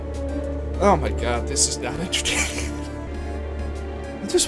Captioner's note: wheeze